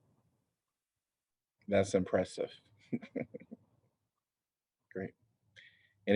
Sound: laughter

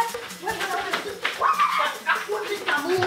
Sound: shouting

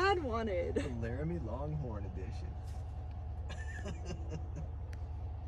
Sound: laughs

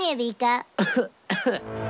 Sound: cough

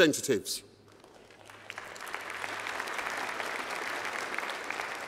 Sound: applause

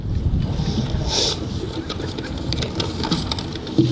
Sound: sniffs

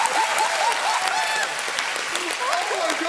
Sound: cheering

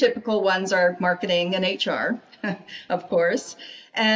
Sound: chuckling

